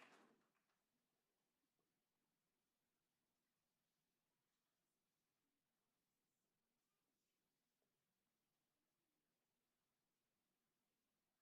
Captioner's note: applause